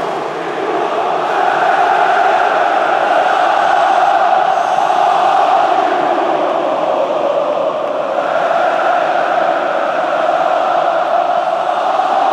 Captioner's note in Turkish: Tezahüratlar